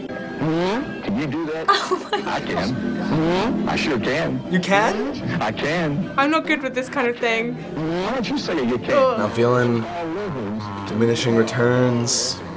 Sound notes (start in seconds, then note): 0.4 ascending fart; 3.1 farts again; 7.6 preacher farting